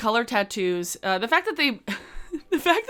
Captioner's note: giggles